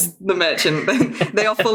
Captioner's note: laughs